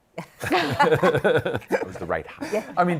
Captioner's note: laughter